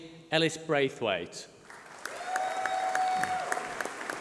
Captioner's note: applause